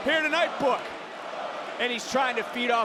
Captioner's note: crowd chanting "Tony"